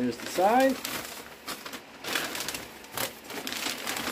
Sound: paper crinkling

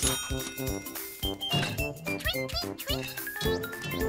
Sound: ring

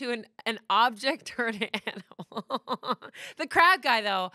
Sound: laughs

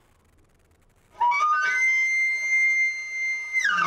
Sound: elk call

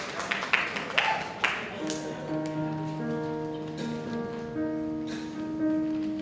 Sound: applause; audience exclaims

